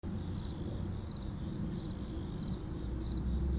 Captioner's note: nature sounds